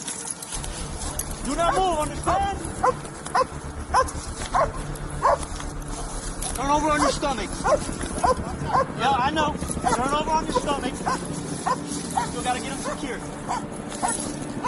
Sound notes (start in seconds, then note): 0.6 tense music; 4.4 dog barking